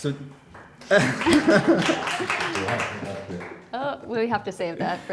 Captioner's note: audience applauding